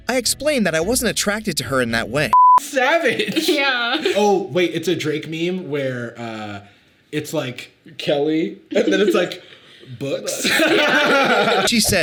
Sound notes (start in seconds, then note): 2.3 beep; 10.3 both laughing